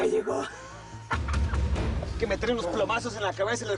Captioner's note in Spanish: Risas